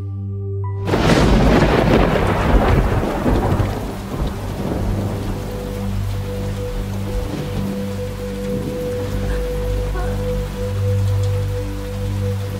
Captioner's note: rains